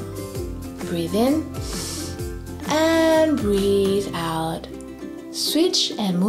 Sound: breathes in deeply

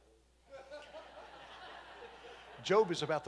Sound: congregation laughing

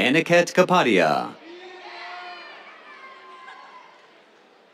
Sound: cheers

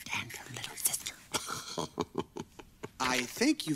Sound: chuckles

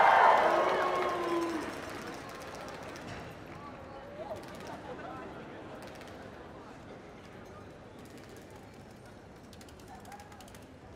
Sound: cheering

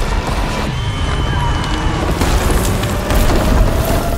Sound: explosion; people screaming; ominous music playing

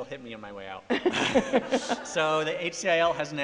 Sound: laughter

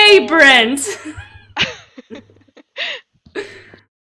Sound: cast laughing

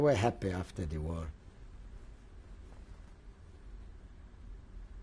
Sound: pauses for 10 seconds

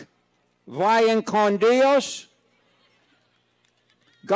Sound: speaking foreign language; laughing

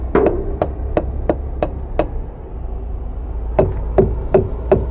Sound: dull thumping; hollow thumping

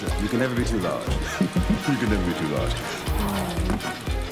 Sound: laughs

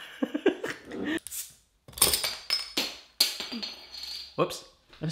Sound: laughs; bottle caps falling

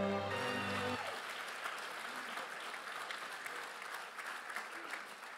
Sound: congratulatory music; cheering and applause

